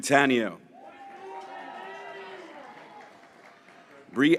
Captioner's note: graduates cheering